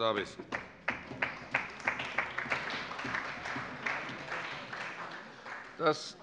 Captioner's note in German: Allgemeiner Beifall